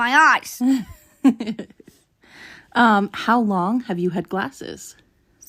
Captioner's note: laughs